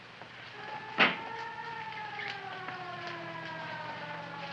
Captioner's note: siren wailing